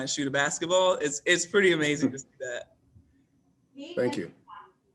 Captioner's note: chuckles